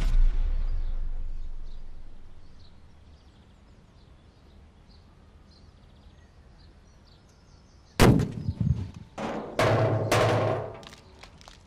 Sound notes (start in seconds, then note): 8.0 gun banging